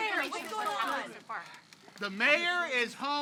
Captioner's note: reporters clamoring